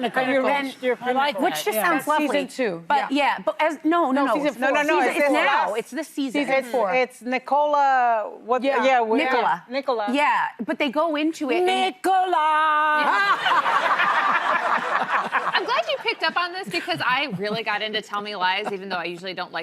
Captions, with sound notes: - Pinnacle, then your pinnacle. - Which just sounds lovely too. - But yeah, but no, no. - No, no, no, no. - It's the seizes for it. - It's Nicola, what do you-- - Nicola. - Nicola. - Yeah, but they go into it. - Nicola! (laughing) - I'm glad you picked up on this because I really got into tell me lies even though I usually